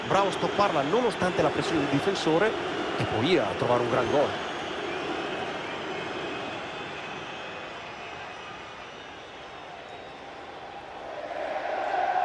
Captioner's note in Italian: Applauso